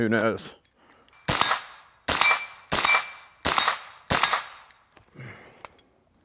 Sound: gun firing and hitting plate repeatedly

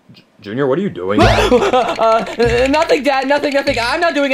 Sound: gasps

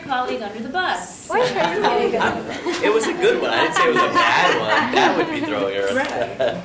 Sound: laughter

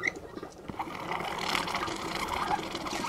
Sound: bubbling

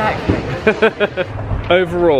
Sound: laughs

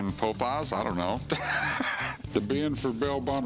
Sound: laughs

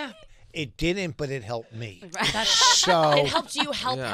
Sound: laughing

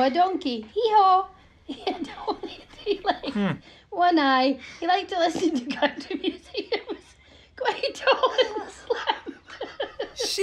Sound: woman laughing

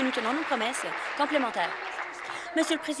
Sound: applause

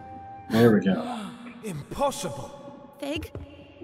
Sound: sighs; gasps

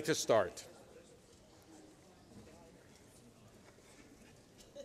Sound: chatter

